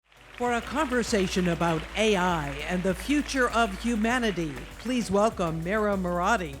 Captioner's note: applause